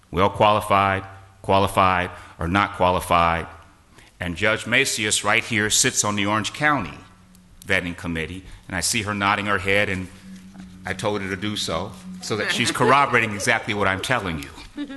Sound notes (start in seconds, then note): 12.6 laughter